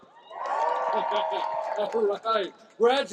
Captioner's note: cheering, applause